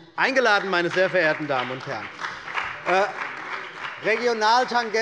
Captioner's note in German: Beifall bei der CDU und dem BÜNDNIS 90/DIE GRÜNEN